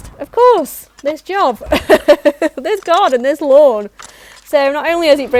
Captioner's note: laughs